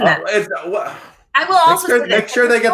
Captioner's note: sighs